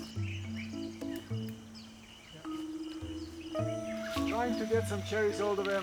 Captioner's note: birds chirping; soft, quirky music